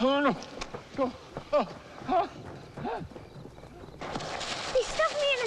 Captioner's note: Hezekiah sputtering